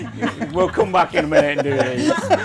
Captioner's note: everyone laughs